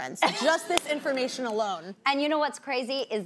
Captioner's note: laughs